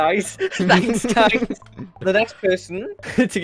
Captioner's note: laughs; bug laughs